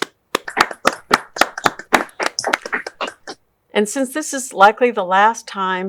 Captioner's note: group applauds